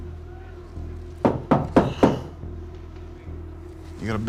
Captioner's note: knock on door